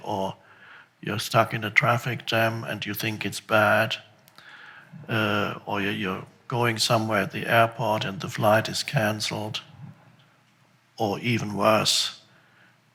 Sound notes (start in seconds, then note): none